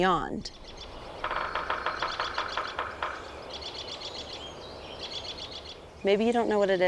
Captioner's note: birds calling, squirrels chirping, woodpecker drumming